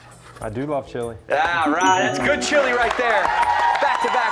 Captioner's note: cheers